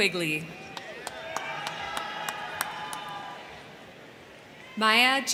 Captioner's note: crowd cheering; crowd clapping